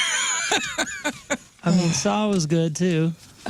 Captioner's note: laughing